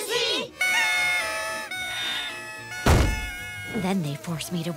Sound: party horns blowing

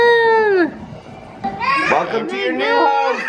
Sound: yells

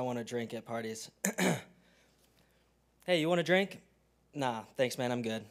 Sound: cough

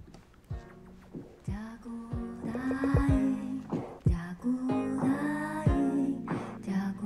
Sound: trailer plays in foreign language

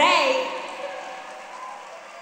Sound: applause and cheers

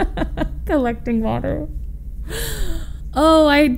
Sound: laughs

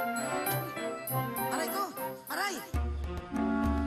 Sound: man's voice

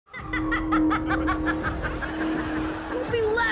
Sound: cackles

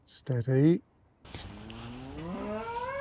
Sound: loud moo

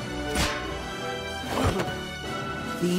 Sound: grunts

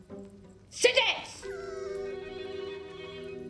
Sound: dog whimpers

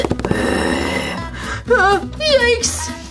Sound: creepy growling

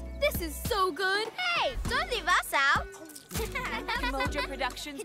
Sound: laughter

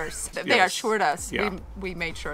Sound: laughing

